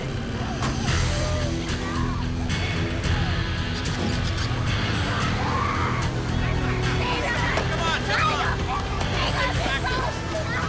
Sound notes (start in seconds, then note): 0.2 slow dramatic music; 5.4 woman speaking in foreign language